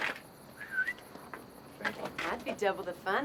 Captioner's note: prostitute whistles